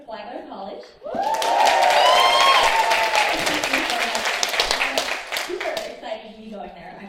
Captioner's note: applause